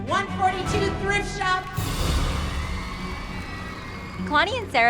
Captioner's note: cheering